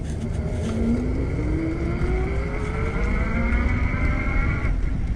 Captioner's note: electric motor whirs